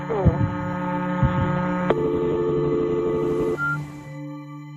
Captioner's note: dial tone buzzing